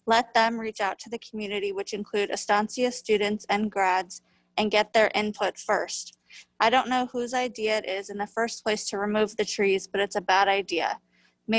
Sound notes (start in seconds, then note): none